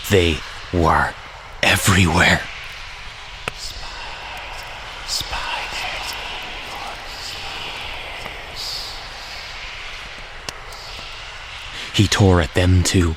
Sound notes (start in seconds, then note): 0.1 harsh Tone; 3.4 sinister Whispers